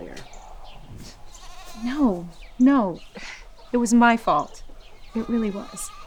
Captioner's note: scoffs